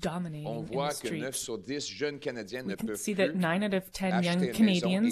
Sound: speaking French

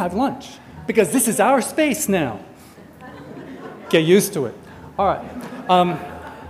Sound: audience laughter

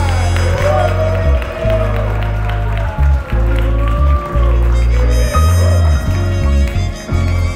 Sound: joy and applauds

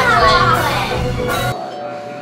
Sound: doorbell rings

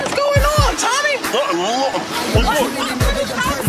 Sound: indistinct chatter

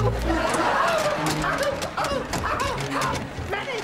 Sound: groaning

